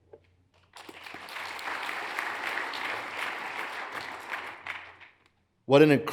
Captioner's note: hands clapping; audience applauds